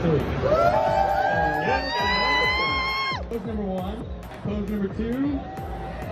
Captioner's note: crowd cheering